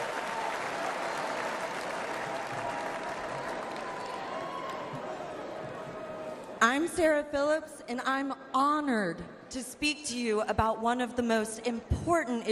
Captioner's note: applause